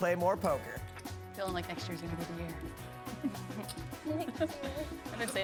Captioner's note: laughs